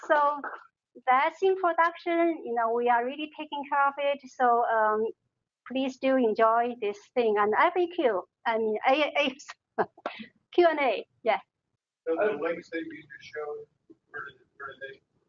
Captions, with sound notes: (applause) so, that's in production, we are really taking care of it. So, please do enjoy this thing. Q&A. (talking)